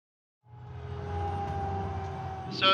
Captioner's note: siren